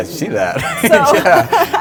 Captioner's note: laughs